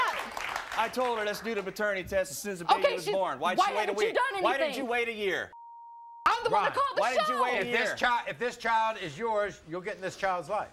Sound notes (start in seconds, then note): 5.5 beeping